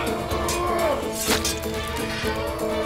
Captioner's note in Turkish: Kılıç sesleri